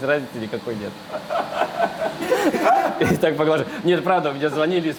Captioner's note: all laugh